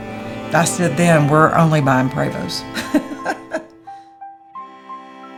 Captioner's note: laughing; slow violin music